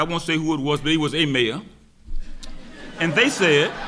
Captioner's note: audience laughing; laughs